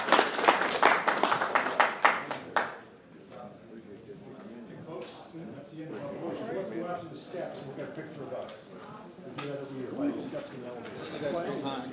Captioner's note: applause